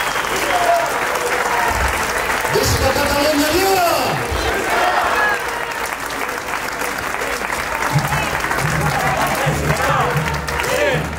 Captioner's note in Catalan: Aplaudiment